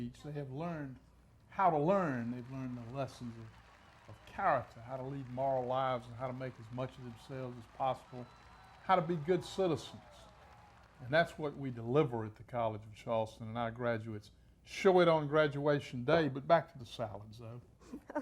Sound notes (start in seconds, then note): 5.5 audience applauding; 10.2 crowd cheering